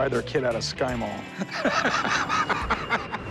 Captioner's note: laughs